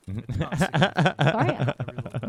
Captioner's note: laughing